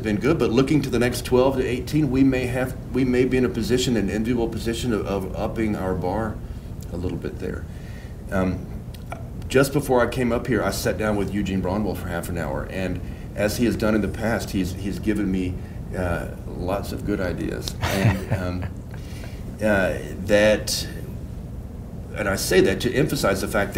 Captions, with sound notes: good, but looking to the next 12 to 18, we may be in a position, an enviable position, of upping our bar a little bit there. Just before I came up here, I sat down with Eugene Braunwald for half an hour. And as he has done in the past, he has given me lots of good ideas. And... (laughs) And I say that to emphasize the fact that we,